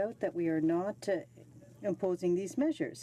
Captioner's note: speaking French